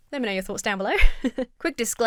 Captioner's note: chuckles